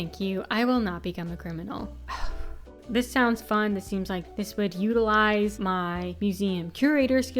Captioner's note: sigh